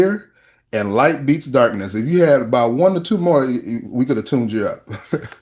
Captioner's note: laughter